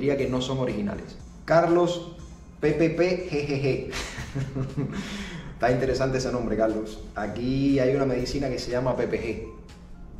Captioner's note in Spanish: risas